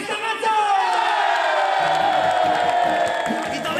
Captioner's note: crowd cheers